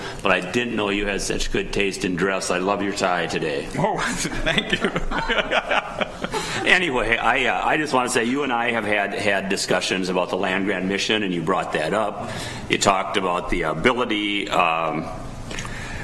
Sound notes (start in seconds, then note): 4.0 laughs